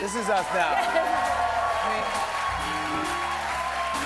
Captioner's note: cheers and applause